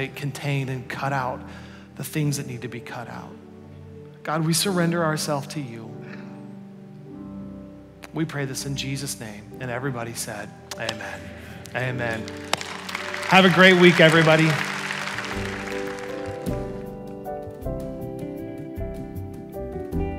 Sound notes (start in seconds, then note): 11.6 congregation applauds; 16.4 bright music